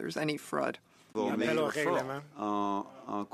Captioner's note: speaking French